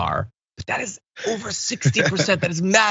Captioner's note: laugh